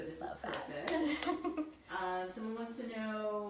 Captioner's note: laughing